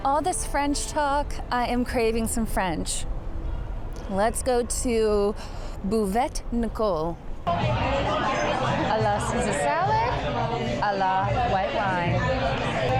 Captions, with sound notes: All this French talk, I am craving some French. Let's go to Buvette Nicole. (customers chattering) A la Caesar salad, a la white wine.